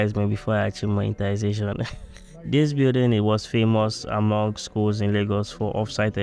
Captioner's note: laughs